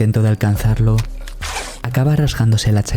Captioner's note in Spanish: desgarro de ropa